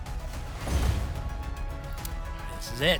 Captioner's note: whoosh; thump